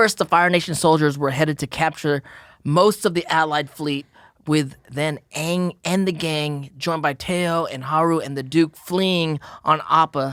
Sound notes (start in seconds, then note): none